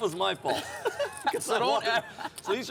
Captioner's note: laughing